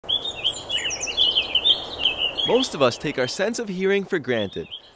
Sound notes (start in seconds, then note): 0.0 birds chirping